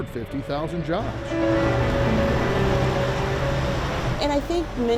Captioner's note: motor rumbles